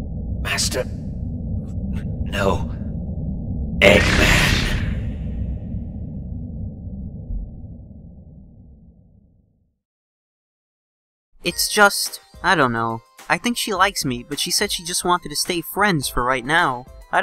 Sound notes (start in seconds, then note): none